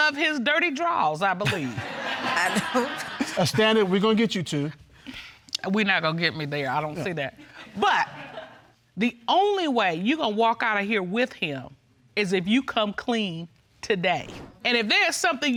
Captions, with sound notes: And you specifically said you love his dirty drawers, I believe. (AUDIENCE LAUGHS) I do. Understand, we're gonna get you, too. We're not go getting me there. I don't see that. But the only way you're gonna walk out of here with him is if you come clean today.